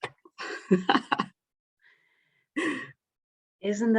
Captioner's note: chuckling